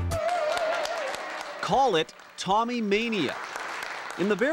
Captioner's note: cheering